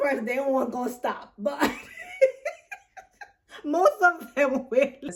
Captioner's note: laughs